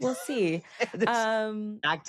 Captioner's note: laughs